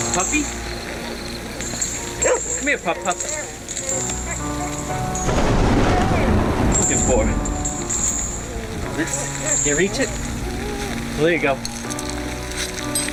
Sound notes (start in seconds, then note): 0.0 door shutting; 2.2 dog barking; 5.9 thunder rumbling